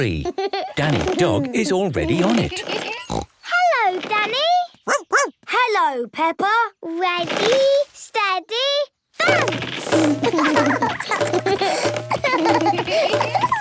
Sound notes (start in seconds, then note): 2.2 snorts; 4.8 barks; 10.1 both laugh